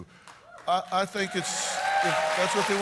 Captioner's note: cheers and applause